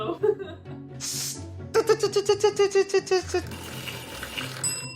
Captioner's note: imitates wheel spinning